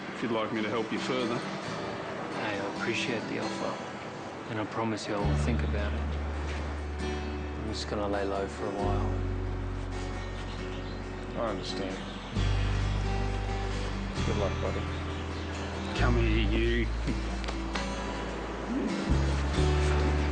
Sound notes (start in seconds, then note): 9.8 birds chirp; 9.8 soft music; 17.7 soft music; 18.6 chuckles